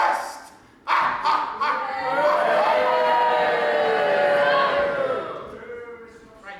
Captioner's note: audience boos